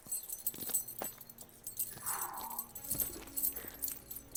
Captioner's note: chains rattling